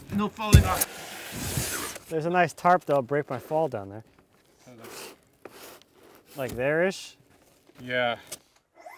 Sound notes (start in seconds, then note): 0.0 wood scraping